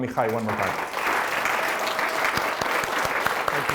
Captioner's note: applause